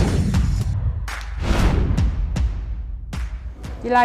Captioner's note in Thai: ปรบมือ